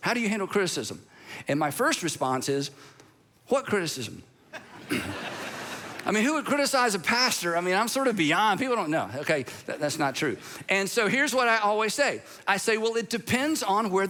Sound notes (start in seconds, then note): 4.5 congregation laughs